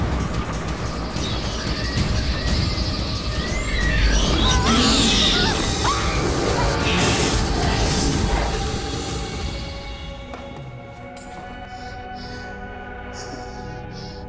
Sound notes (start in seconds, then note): 3.4 creature shrieking; 6.3 screams; 11.5 breathing heavily